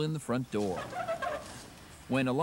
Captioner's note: squeaking wheels